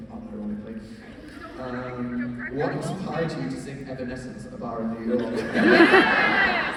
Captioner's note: laughs